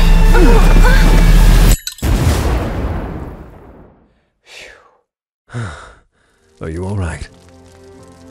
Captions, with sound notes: *ding* [explosion] [relieved exhale] [fantasy deep voice] Are you all right?